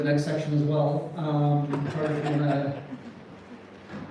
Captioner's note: scattered laughter